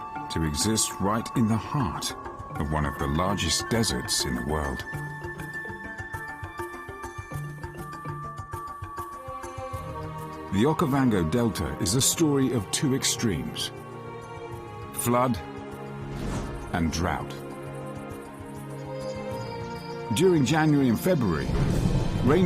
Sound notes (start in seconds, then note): 5.2 dramatic music; 19.1 birds chirping; 19.1 dramatic music